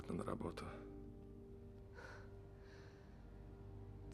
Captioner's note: sighs